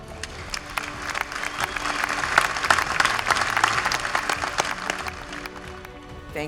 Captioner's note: applause